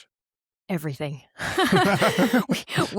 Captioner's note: laughs